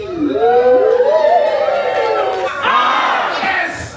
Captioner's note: crowd exclaims